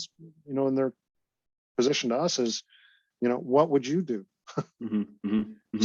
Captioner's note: laughs